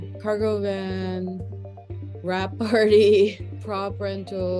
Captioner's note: giggle